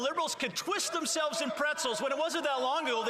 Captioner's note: some Applause